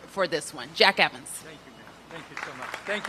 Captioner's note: applause